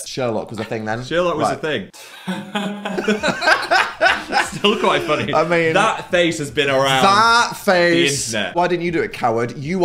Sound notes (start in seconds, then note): 2.0 laughing